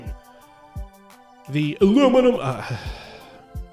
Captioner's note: voice booming and echoing; normal voice; voice booming and echoing; sighs, normal voice